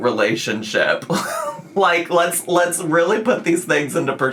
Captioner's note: laughs